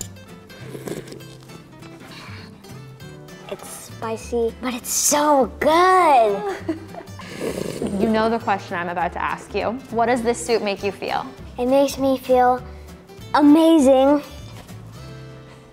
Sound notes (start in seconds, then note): 0.4 slurps